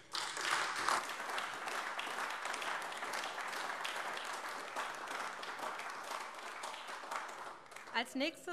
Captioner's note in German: Beifall AfD